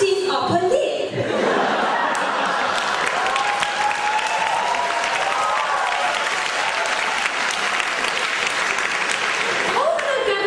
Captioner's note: audience applause